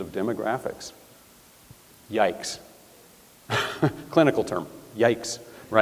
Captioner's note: chuckles